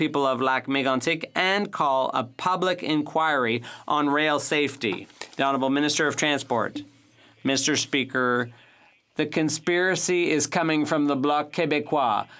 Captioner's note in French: voix de l'interprète